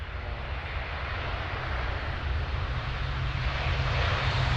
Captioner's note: plane engine roaring